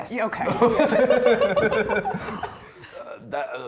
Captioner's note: players laughing